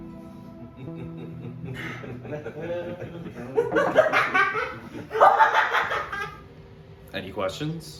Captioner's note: they laugh